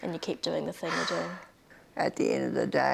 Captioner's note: heavy sigh